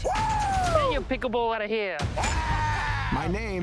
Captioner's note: exclaims